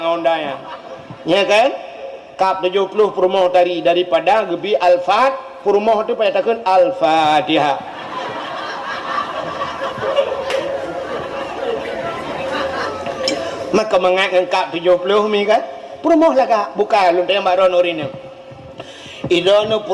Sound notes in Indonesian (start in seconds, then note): 7.8 tertawa